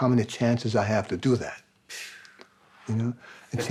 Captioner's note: sighs